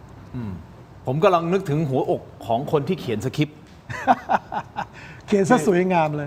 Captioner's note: laughs